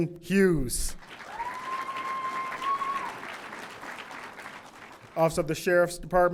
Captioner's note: audience applauding; audience cheering